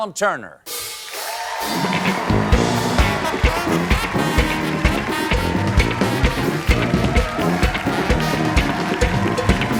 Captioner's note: cheers and applause